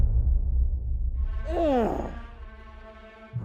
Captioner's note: grunts